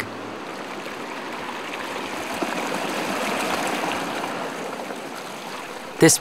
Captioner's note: running water